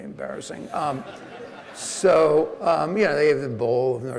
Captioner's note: audience laughing